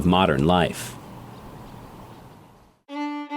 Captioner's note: birds chirping; fiddle music